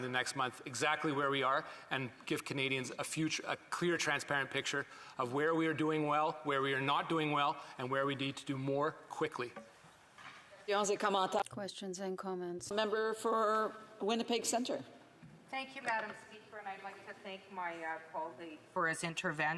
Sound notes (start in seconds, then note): 16.0 speaking French